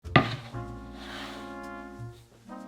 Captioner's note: board sliding; upbeat jazz music playing in background throughout video